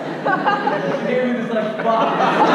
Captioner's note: audience laughs